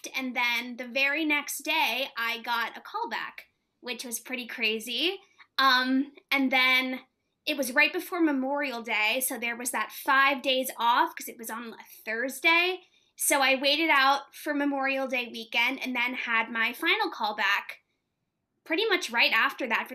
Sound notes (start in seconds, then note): none